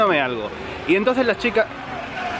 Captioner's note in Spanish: Ruido de moto